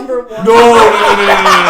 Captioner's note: room laughs